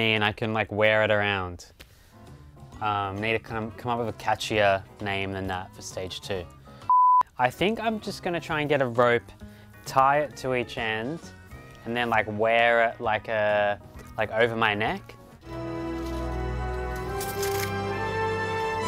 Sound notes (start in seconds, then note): 6.9 beeps; 15.4 dramatic music